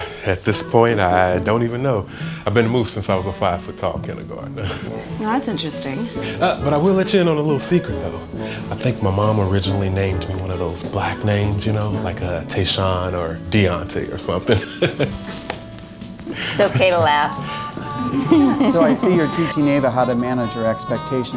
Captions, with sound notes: - At this point, I don't even know. I've been Moose since I was a five foot tall kindergartner. - Now that's interesting. - But I will let you in on a little secret, though. I think my mom originally named me one of those black names, you know, like Tayshaun or Diante or somethin'. (laughs) - It's okay to laugh. - So I see you're teaching Ava how to manage her expectations